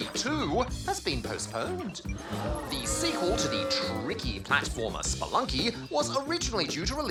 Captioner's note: audience boos